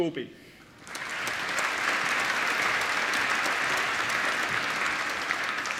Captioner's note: applause